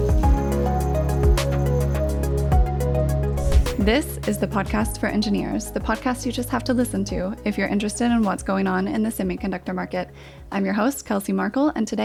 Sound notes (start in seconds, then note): 0.2 bright music; 3.3 scene whooshing